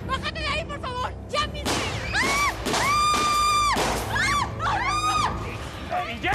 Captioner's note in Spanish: gritos